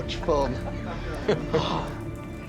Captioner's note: chuckling